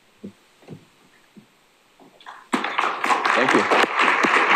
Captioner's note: applause